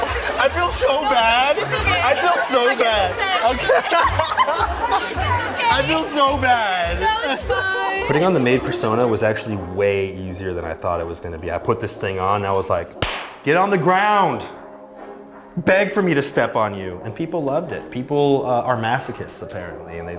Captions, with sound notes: -I feel so bad. I feel so bad. -No, it's okay. I give consent. [laughter] It's okay. -I feel so bad. -No, it's fine. -Putting on the maid persona was actually way easier than I thought it was going to be. I put this thing on, I was like, "Get on the ground. Beg for me to step on you." and people loved it. People are masochists, apparently.